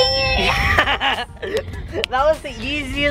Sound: laughing

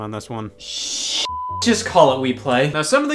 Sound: beep

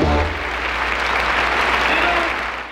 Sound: audience applauds

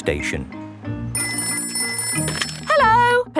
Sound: ringing

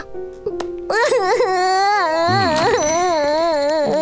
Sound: cries

